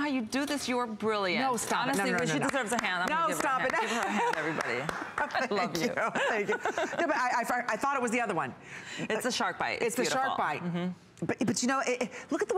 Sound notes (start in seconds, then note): 5.1 applause